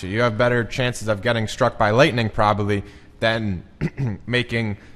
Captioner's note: clears throat